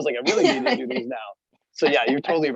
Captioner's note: laughing